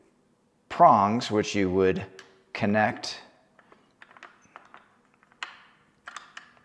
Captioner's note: parts click